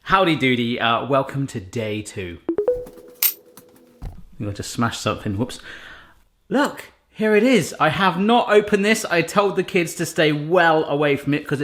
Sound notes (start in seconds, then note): 2.5 bright beeps